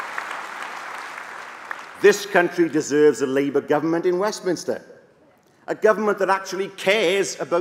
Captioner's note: applause